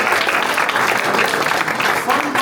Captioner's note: applause